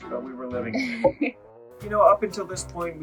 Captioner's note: giggles